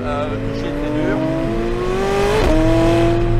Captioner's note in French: Vrombissement du moteur